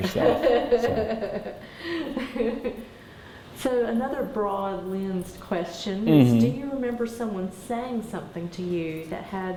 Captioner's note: laughs